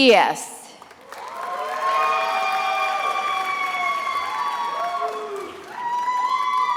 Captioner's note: attendees applauding and cheering